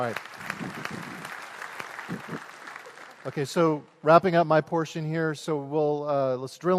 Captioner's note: applause